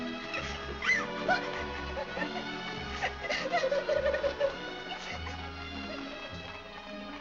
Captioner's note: Annie crying